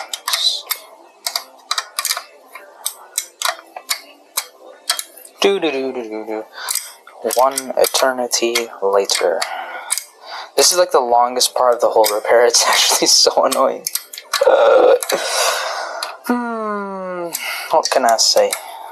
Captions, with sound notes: Doo doo doo doo doo doo. One eternity later... This is like the longest part of the whole repair. It’s actually so annoying. Ughhhhh Hmmmmm... [sighs] What can I say?